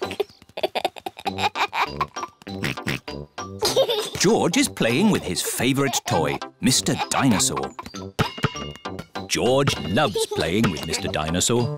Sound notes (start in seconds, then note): 0.0 giggles; 2.6 oinks; 11.6 laughs and oinks